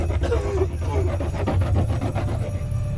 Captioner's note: board wax scrapes; surfer coughs